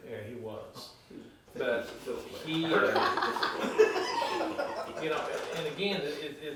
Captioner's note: laughing